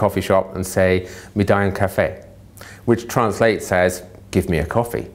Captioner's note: speaking italian